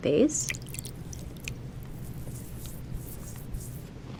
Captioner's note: water splashing